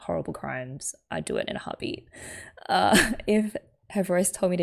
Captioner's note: laughs